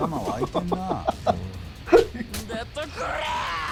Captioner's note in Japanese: 笑い